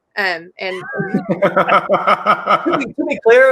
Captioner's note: laughs